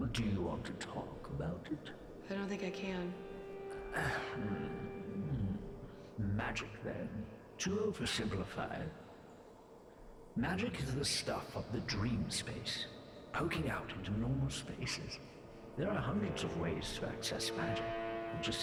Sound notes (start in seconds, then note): 2.5 whisper; 3.8 Grekt sighs